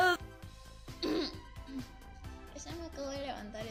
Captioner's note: cof cof